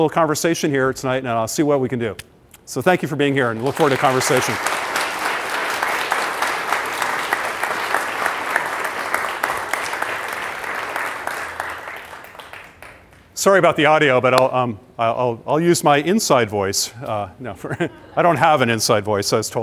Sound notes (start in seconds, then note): 11.3 applause